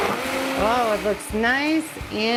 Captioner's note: blender whirring